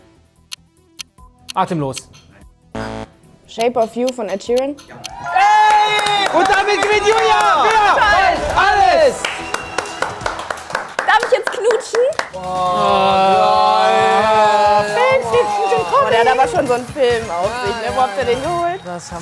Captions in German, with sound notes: "Atemlos". (Jubel) Und damit gewinnt Julia "Wer weiß ALLES?"! Darf ich jetzt knutschen? Oah! Geil! Der hat aber schon so einen Film, wo habt ihr den geholt?